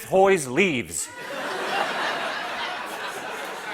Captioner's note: laughter